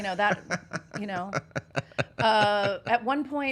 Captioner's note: laughing